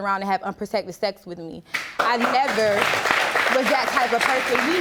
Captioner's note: audience applauding